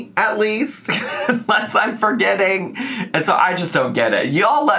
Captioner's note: laughs